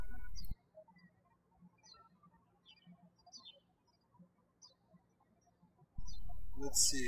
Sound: birds chirping

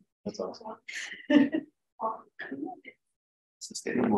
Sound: chuckles

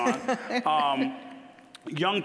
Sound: scattered laughing

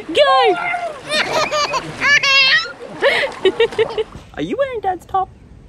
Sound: giggling uncontrollably

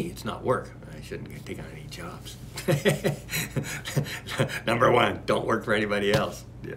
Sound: laughs

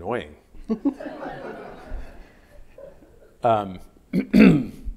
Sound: audience laughing

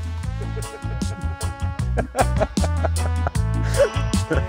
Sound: laughing; reggae music

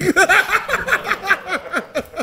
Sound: laughing

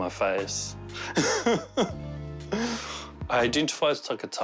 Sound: laughs

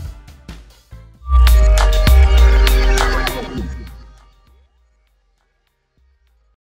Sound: C2G logo materializes in, as a distorting sound effect plays

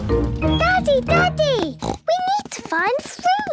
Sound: snorts

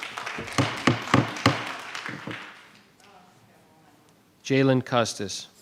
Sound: audience applauding

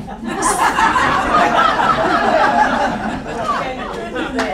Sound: audience laughing

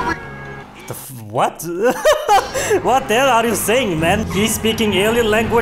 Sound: inhale

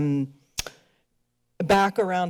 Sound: clicks tongue

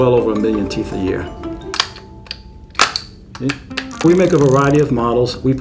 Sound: snapping

